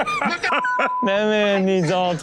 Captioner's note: hosts laugh